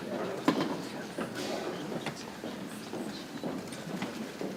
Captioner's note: people chattering softly